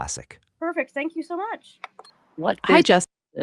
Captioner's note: claps hands